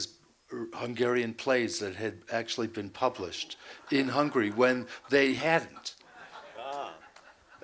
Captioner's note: laughter